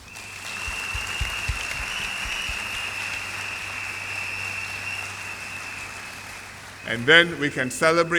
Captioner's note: applause